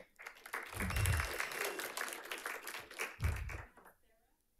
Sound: audience applauding

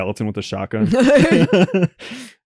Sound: laugh

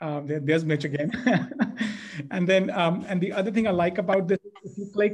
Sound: laughter

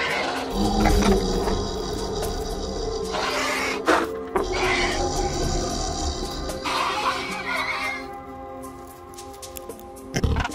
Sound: Sauropelta growls

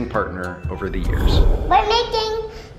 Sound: whooshing

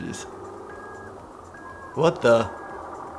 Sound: construction sounds

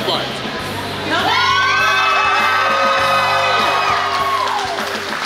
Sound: crowd cheers; crowd clapping

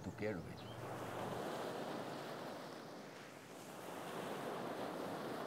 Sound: gentle waves

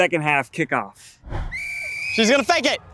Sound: whistle blows

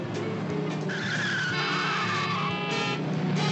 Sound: tires screeching, horns honking

